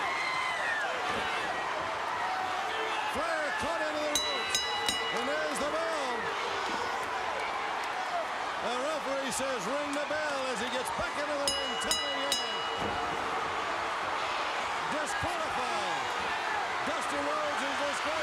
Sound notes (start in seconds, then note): 0.1 crowd cheering; 4.1 bell ringing; 11.4 bell ringing